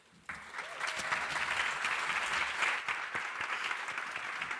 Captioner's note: crowd applauding